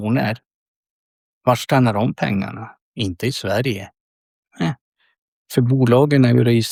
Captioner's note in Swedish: harklar sig